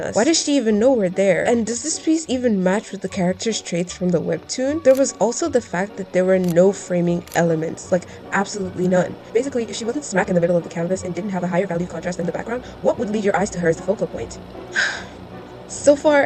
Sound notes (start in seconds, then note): 14.7 sigh